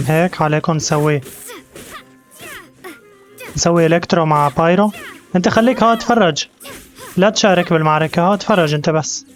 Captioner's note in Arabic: زقزقة الطيور